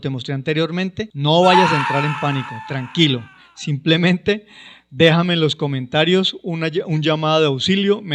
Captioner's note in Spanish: grito